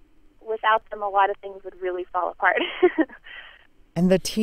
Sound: laughs

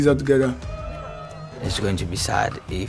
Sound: players cheering

